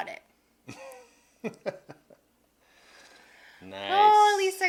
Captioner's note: laughing